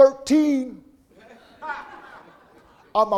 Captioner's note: audience laughing